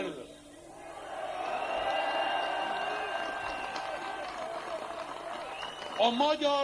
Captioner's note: applause, whistling